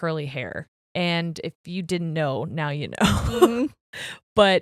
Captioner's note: laughs